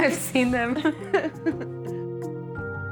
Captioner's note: laughs